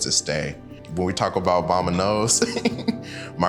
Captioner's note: chuckles